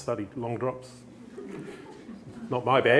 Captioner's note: chuckling; laughter